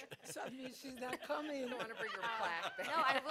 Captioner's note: laughter